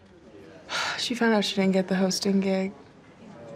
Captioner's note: sighs